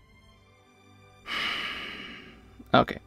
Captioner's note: existential sigh